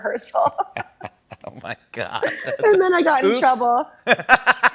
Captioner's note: laughs